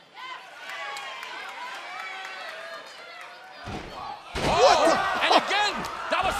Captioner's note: crowd chatter